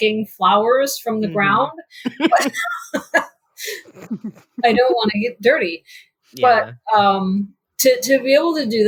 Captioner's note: laughs